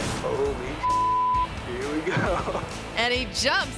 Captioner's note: beep